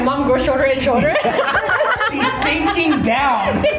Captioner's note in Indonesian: Ketawa